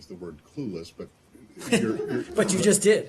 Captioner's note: laughter